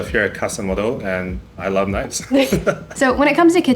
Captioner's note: laughs